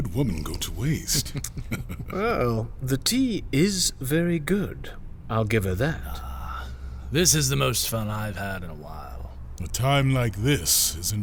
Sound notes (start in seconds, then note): 0.8 laughs; 6.5 drinking